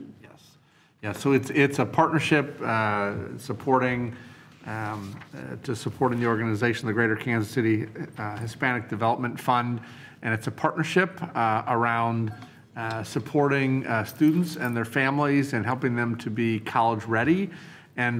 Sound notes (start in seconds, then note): none